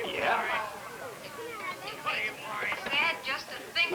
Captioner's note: auction chatter